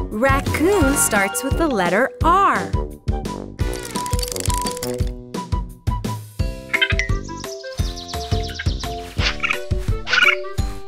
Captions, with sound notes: Raccoon starts with the letter R. (raccoon chitters)